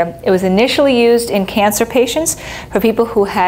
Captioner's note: none